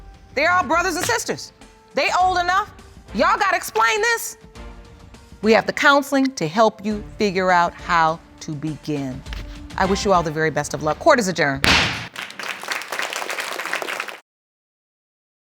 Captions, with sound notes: They are brothers and sisters. They old enough. Y'all gotta explain this. We have the counseling to help you figure out how to begin. I wish you all the very best of luck. Court is adjourned. (BANGS GAVEL) (APPLAUSE)